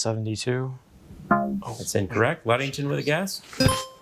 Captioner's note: buzzer ringing; buzzer beeping